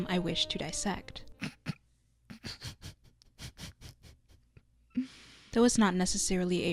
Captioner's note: snickering